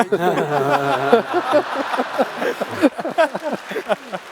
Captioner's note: laughs